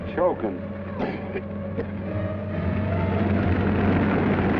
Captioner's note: coughs